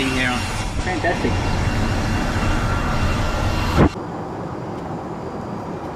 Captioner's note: hair dryer screeching